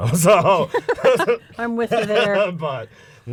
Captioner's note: laughter